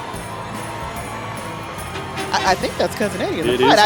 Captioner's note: holiday music; rv honking